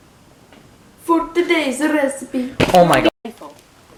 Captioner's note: Italian accent